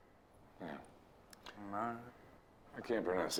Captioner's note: Marcus murmuring